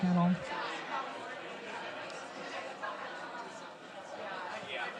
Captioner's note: audience chatting